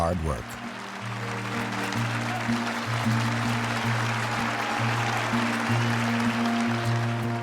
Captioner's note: audience applauding; hopeful music